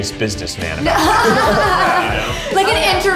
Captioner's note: everyone laughing